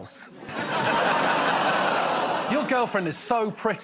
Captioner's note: laughter